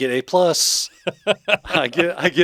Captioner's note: laughing